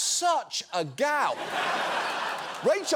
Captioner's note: studio audience laughing